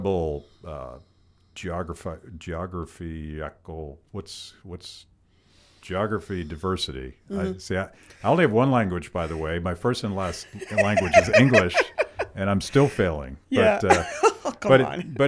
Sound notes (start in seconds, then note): 10.2 laughing